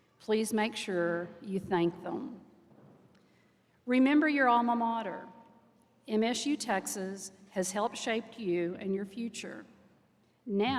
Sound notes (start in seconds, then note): none